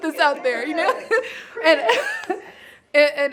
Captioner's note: laughing